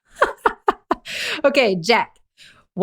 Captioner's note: laughter